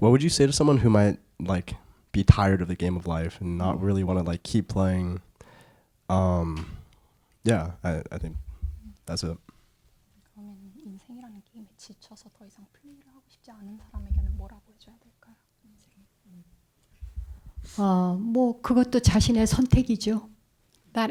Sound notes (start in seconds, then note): 11.0 translator speaking in Korean; 18.4 speaking in Korean